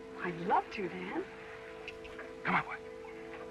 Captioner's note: clicking sound